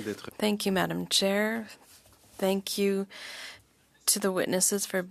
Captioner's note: speaking French